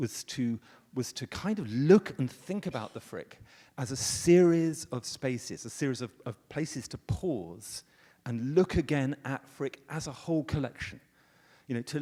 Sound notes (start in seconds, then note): none